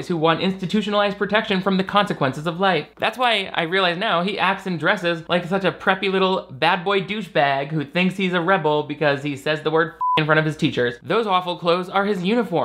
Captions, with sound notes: who want institutionalized protection from the consequences of life. That's why I realize now that he acts and dresses like such a preppy, little, bad boy douchebag who thinks he's a rebel because he says the word (beep) in front of his teachers. Those awful clothes are his uniform.